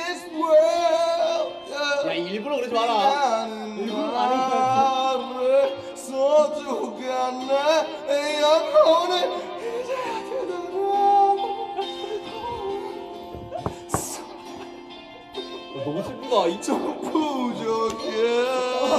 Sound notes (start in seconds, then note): 12.0 hum